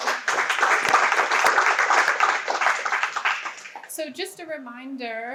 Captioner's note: audience applauds